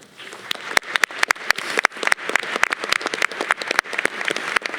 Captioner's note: audience applause